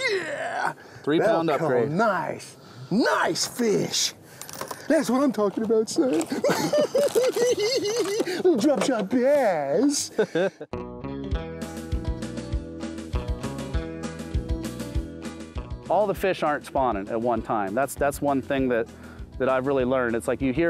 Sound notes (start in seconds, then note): 6.2 laughing; 11.3 upbeat guitar music